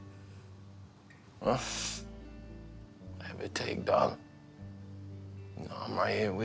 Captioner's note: scoffs